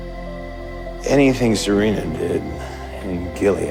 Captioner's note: voiceover